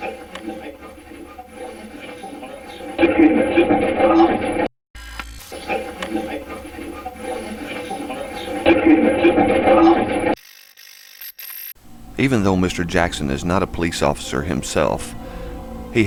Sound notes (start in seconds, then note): 0.0 static playback transmitting; 0.0 static fizzing; 5.4 static playback transmitting; 5.6 static fizzing; 10.5 static fizzing